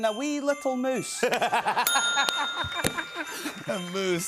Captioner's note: bell dings; laughter